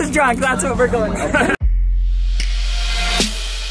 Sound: laughs

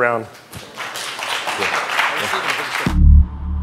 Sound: applause

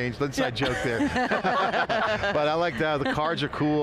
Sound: laughing

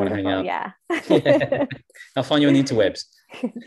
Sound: both chuckle

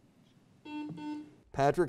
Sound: buzzer beeps

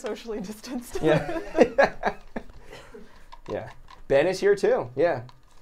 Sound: everyone chuckles

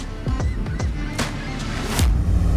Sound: seagulls chirping; upbeat music continues

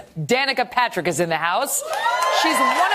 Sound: applause

